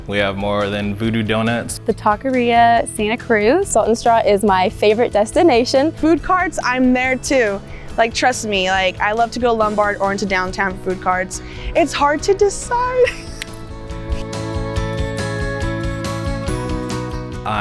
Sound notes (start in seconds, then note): 12.6 laughs; 14.4 bright upbeat music